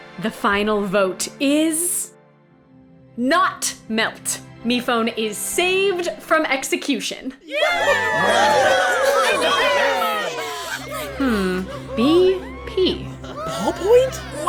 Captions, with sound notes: The final vote is... NOT MELT. MePhone is saved from execution! [A few members of the Uninvitationals, and the Contestants cheer] -Hm...B-P? -Ballpoint?